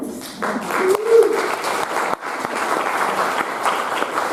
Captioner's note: audience applauding